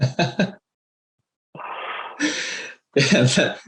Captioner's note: laughing